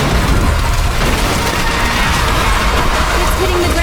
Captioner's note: devastation roaring